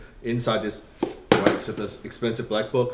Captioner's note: thumping drowns out speech